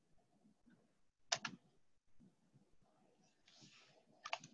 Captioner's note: key clicks